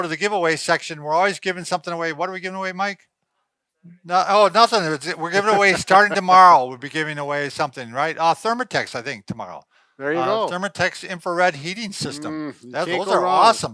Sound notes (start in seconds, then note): 4.8 laughs